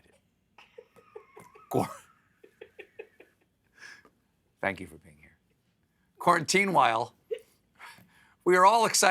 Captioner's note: laughter